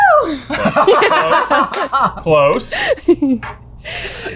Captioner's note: laughter